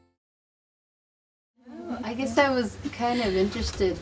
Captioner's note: group murmuring